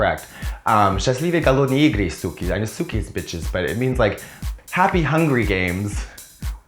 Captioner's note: speaking Russian